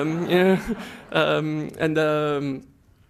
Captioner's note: laughter